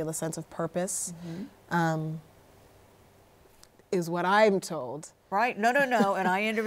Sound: laughs

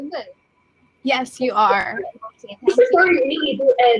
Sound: chatter

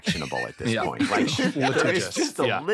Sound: all chuckling

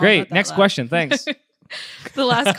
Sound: laughs

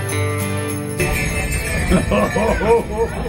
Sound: bells jingling

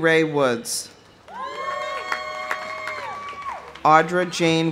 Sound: audience cheering; audience applauding

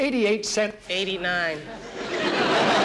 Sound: audience laughing

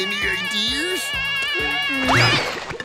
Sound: screaming

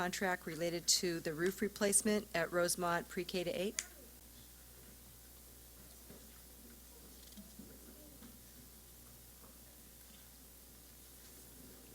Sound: silence

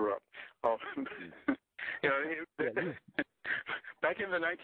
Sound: both laugh

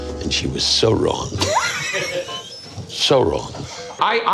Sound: laughing

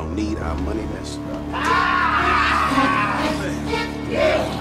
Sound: evil laughter

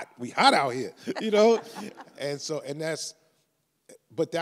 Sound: laughs

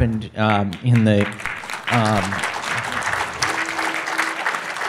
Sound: audience applauding

